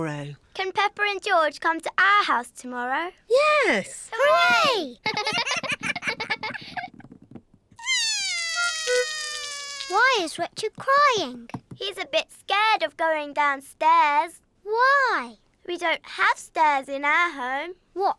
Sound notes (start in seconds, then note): 7.8 cries